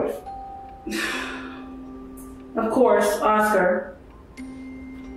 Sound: sighs

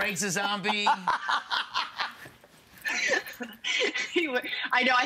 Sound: laughing

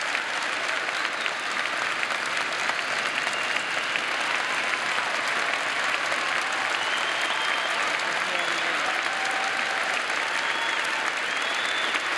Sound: applause

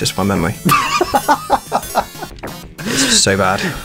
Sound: laughs

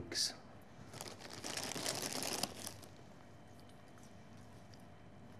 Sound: packet rustling

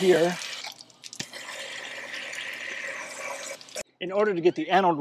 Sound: water hisses

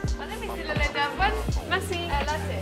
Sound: light music; speaks in French

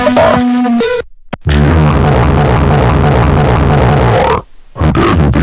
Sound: growling

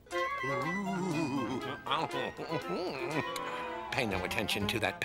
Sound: chuckles

